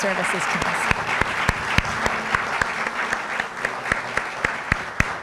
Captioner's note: applause